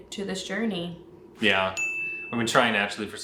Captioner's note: bell chimes